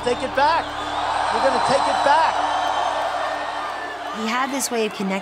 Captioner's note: crowd cheers